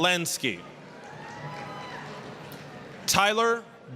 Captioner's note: applause, cheering